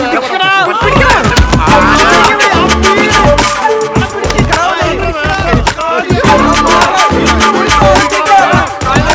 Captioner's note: babble of voices